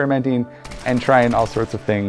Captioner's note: rounds firing